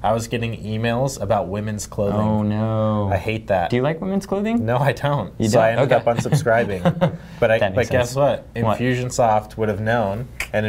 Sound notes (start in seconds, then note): 5.8 laughing